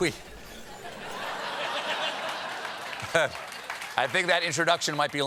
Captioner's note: laughter